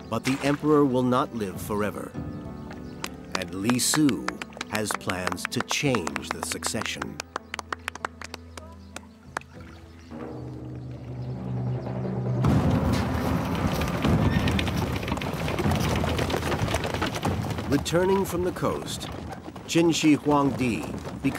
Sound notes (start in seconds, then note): 7.2 group applauding; 9.0 dramatic music; 12.8 carriage rattling; 13.9 horse whinnying